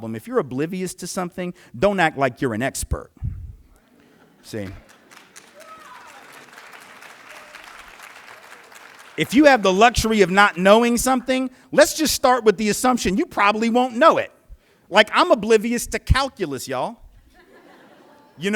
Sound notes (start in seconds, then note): 4.6 applause